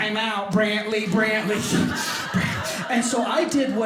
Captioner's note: audience laughing